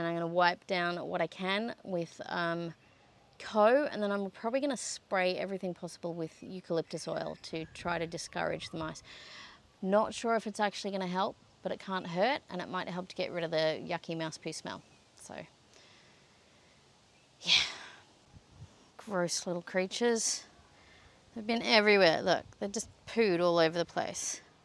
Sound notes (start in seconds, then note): 17.4 sighing